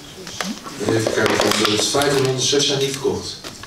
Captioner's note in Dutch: krakend geluid van plastic